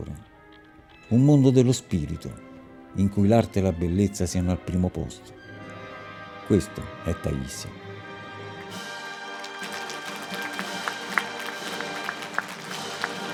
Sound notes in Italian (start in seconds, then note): 8.8 Applauso